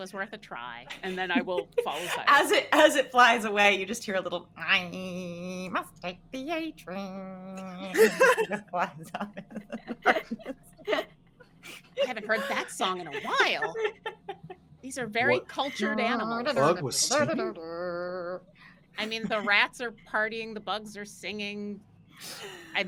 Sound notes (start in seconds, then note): 7.9 all laughing